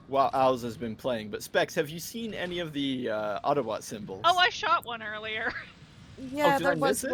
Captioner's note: laughs